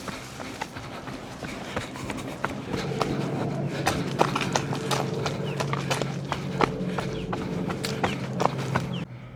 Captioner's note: footsteps